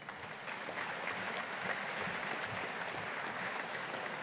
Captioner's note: audience applauding